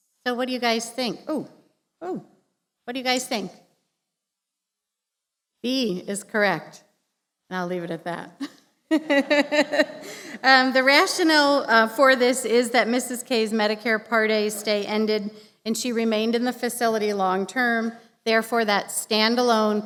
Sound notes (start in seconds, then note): 8.9 laughter